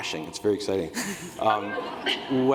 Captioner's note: laughter